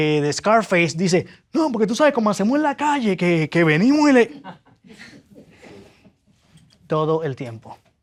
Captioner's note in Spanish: risas